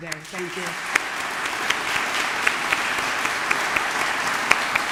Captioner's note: audience clapping